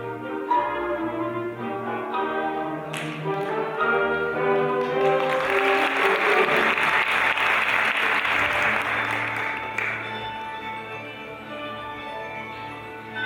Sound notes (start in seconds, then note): 4.7 audience applauding; 9.9 lively classical music